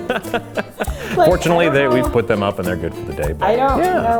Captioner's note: laughs